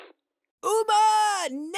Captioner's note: making angry noises